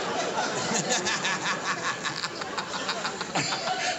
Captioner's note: laughter